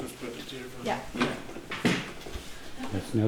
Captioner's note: speaking faintly